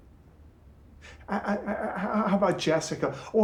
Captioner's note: stutters